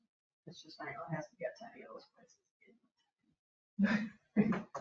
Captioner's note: speaks distantly